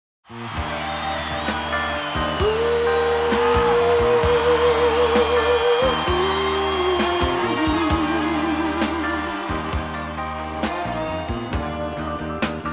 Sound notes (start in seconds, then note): 0.5 audience cheering; 0.5 sultry music